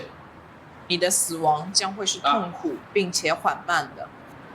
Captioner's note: Mandarin language